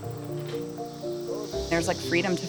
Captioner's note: loud insects buzzing